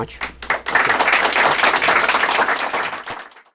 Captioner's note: applause